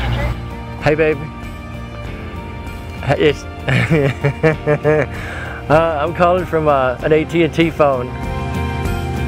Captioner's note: laughter